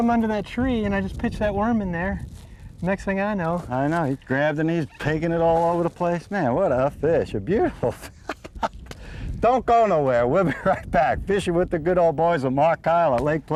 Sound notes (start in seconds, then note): 7.8 laughter